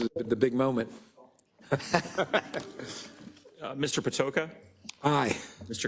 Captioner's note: laugh